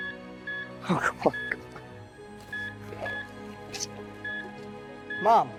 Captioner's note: murmuring